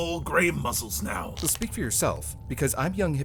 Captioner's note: lorne creaks